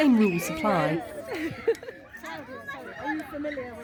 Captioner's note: background chatter